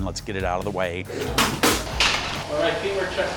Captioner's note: stretcher clacks; gloves smack